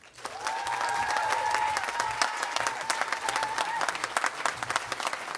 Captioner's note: audience cheering and applauding